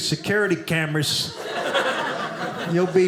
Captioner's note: audience laughing